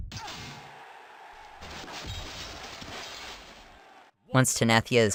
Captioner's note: thud; metal Clinking